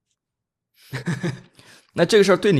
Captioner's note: laughs